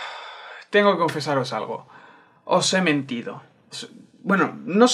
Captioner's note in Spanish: suspiro